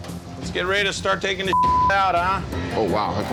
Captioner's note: beep